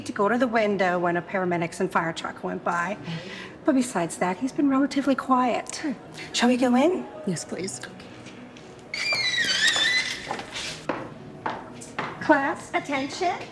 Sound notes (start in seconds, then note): 8.9 door squeaking; 10.2 shoes clacking